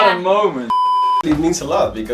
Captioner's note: beep